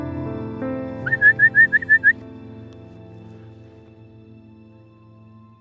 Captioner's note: whistling